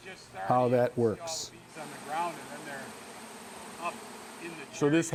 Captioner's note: insects buzzing, speaking indistinctly